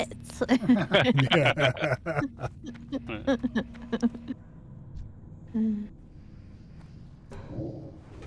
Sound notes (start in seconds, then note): 0.5 laughing